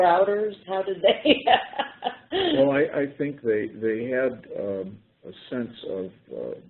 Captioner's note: laughter